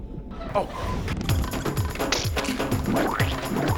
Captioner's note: squishing